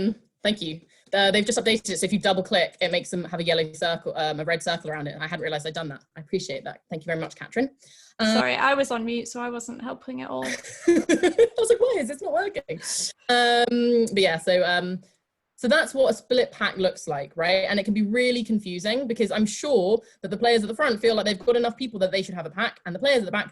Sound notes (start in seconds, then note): 10.4 laughs